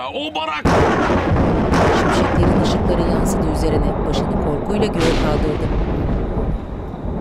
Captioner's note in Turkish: Gök gürültüsü sesi